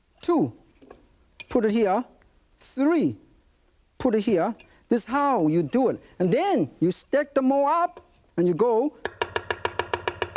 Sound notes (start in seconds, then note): 8.8 knife banging